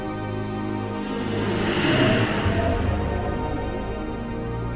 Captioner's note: spacecraft whooshes